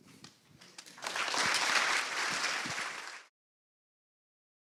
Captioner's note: appaluse